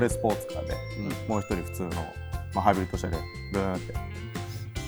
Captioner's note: vroom